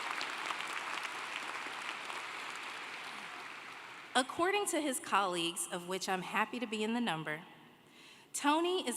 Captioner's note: applause